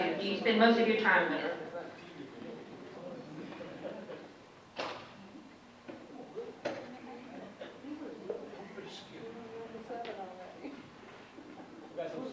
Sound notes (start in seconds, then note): 6.9 audience chatting indistinctly